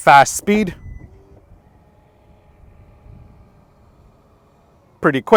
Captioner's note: tailgate opening